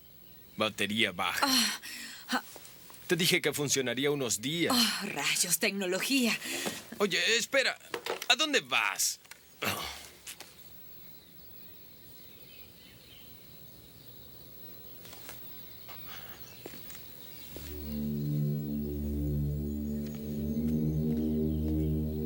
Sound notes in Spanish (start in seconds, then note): 13.2 pássaros cantando; 17.6 música de suspense